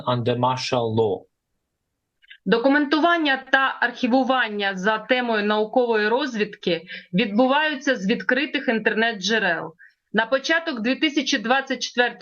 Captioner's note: foreign language